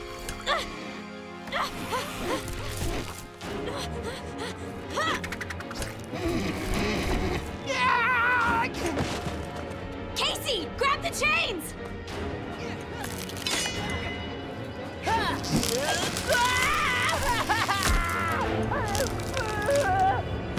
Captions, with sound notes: [grunting] [screaming] Casey, grab the chains! [screaming] [groaning]